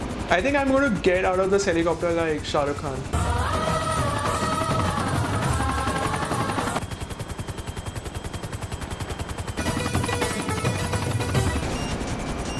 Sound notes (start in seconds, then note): 3.1 jungle music; 7.2 helicopter whizzing